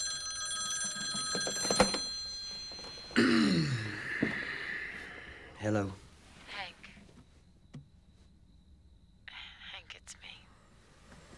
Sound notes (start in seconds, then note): 3.1 clears throat